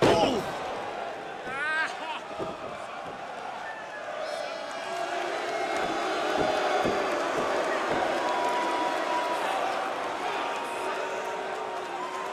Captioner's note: crowd cheering